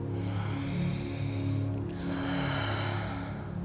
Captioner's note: heavy breathing